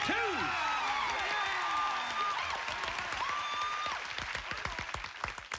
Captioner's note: cheers and applause